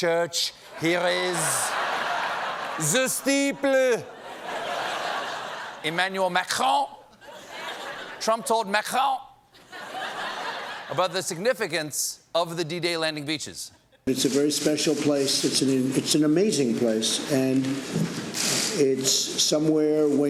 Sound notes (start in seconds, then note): 6.5 laughter